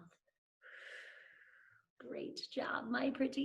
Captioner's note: exhales